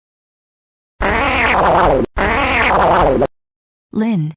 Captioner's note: blowing a raspberry